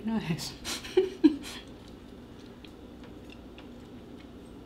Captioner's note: laughing